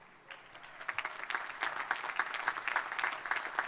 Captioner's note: crowd applauding